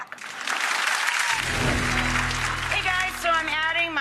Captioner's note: audience claps